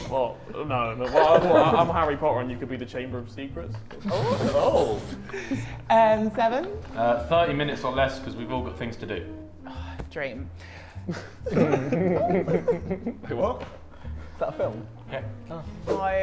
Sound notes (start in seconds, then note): 11.0 Sidemen chuckle